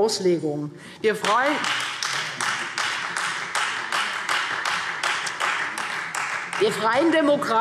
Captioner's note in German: Beifall Freie Demokraten